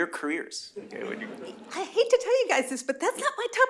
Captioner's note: laughter